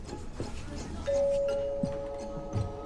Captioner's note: doorbell rings